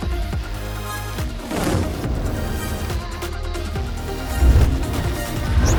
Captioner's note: upbeat music; graphics whooshing; vehicle whooshing